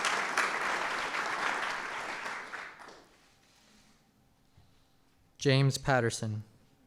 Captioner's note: applause